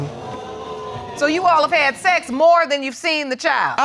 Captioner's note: audience exclaims